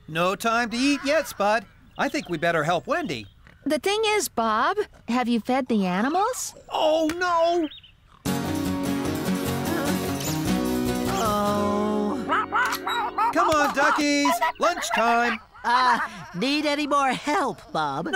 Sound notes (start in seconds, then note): 9.6 sighs; 12.4 quacking